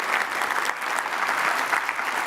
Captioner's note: applause